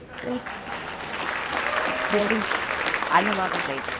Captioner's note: audience applauds and cheers